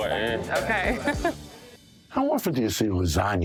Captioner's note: waitress chuckling